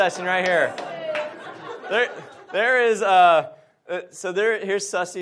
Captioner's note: audience laughs